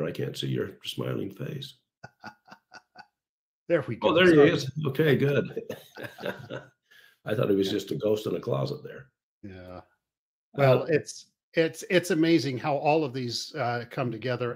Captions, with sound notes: I can't see your smiling face. - (laughing) There we go. - Oh, there he is, okay, good. (laughs) I thought it was just a ghost in a closet there. - Yeah, well it's amazing how all of these come together.